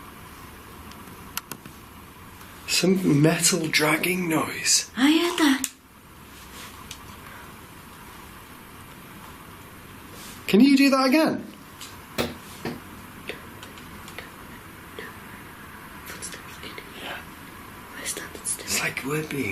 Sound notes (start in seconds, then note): 12.2 tapping